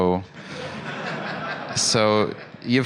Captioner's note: laughter